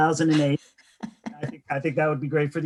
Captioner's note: laughing